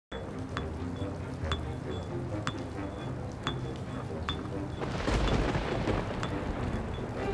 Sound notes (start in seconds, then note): 0.1 rain pours; 4.8 thunder rumbles